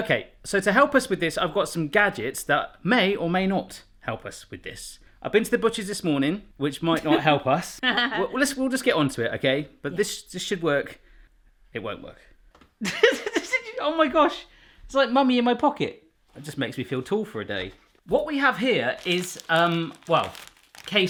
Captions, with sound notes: - Okay, so to help us with this, I've got some gadgets that may or may not help us with this. I been to the butcher's this morning. Which might not help us (laughing) We'll just get on to it, okay? But this should work. It won't work. (laughing) Oh my gosh, it's like Mummy in my pocket. It just makes me feel tall for a day. What we have here is well,